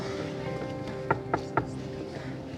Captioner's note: knocking